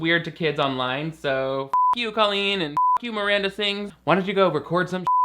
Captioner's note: beep; beep